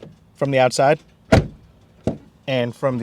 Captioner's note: closes door